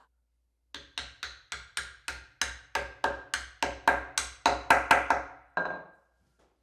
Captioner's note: block knocking